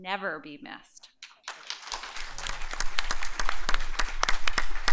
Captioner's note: applause